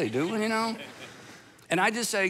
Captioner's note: audience laughs